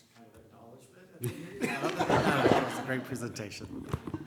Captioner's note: laughter